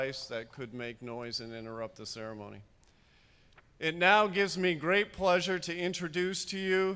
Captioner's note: none